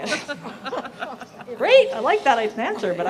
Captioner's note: laughter